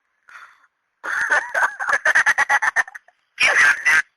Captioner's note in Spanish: risas